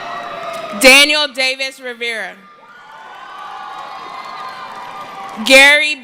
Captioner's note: cheering